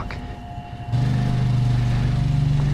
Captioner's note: rumble of nearby quadbike